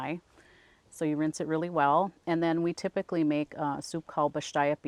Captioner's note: speaks in a foreign language